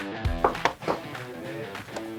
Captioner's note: knocking